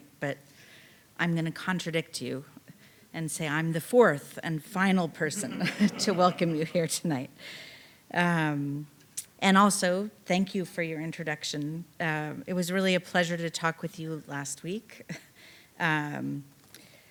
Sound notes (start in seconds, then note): 5.1 audience laughing